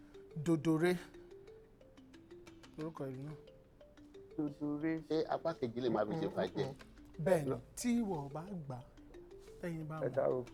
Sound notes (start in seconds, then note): 4.3 murmuring